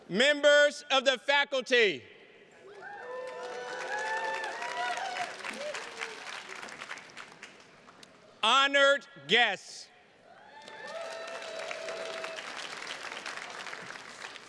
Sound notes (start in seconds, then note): 2.6 attendees cheers and claps; 10.2 attendees cheers and claps